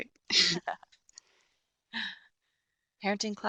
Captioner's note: chuckle